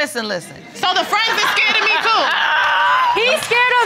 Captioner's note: all laugh